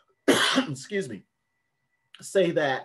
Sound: coughs

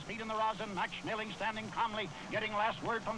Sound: radio Announcer

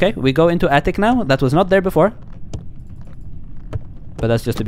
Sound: none

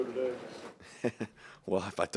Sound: laughs

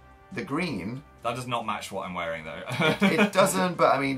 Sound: laughs

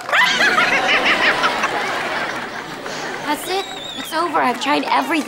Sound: cackles

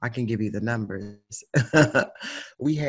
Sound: chuckles

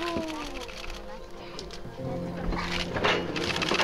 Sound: crowd murmuring

